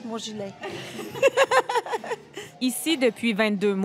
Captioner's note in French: rires